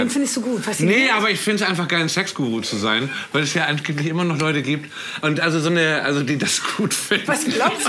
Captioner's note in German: Lachen